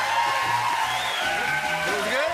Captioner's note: cheering and applause; whistling